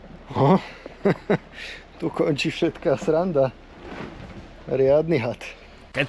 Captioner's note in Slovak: smiech